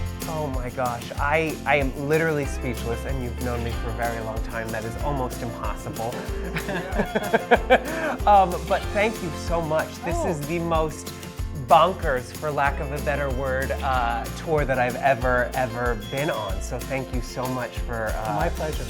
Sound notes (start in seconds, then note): 6.2 everyone laughing